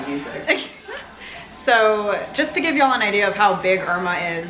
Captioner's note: laughs